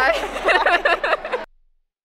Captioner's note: laughter